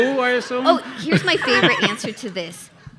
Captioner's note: laughing